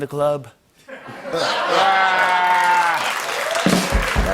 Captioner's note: laughter and applause